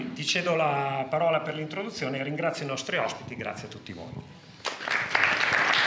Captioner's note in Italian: Applauso